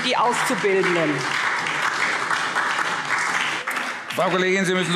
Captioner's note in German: Beifall SPD und DIE LINKE